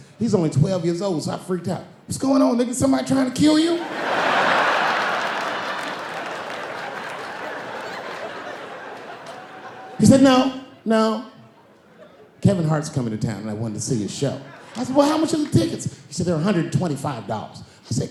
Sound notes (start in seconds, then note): 3.5 laughing